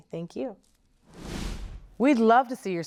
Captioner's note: whoosh sound